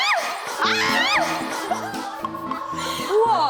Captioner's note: cryyy